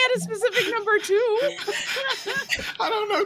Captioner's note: all laughing